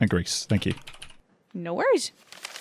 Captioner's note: more typing noises